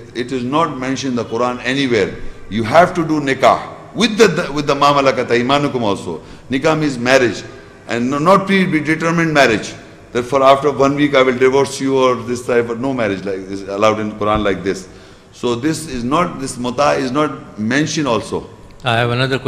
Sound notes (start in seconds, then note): 4.5 Arabic